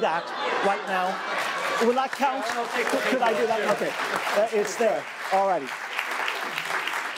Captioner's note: applause